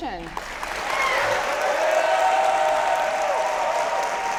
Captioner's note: audience applauding